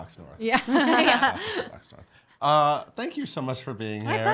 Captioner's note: laughing